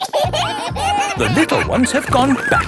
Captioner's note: kids giggling